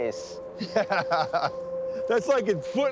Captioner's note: laughs